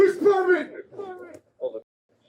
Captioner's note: radio chatter